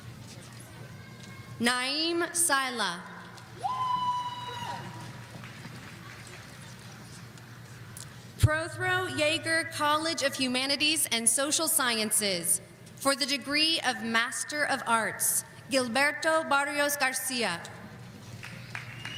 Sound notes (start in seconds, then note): 3.6 person cheering